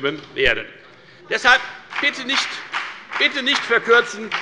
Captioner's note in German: Beifall bei der FDP